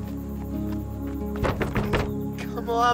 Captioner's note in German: klopft an die Tür